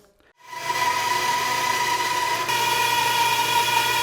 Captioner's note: bandsaw grinding